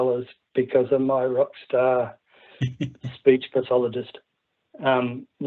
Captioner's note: laughs